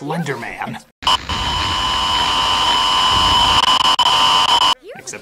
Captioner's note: creepy static